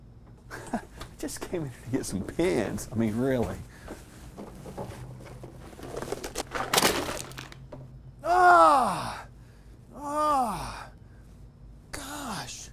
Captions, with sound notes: I just came to get some pens. I mean, really. (pens clatter) (Mark groans) Gosh!